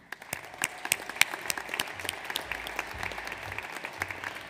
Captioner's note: audience applauds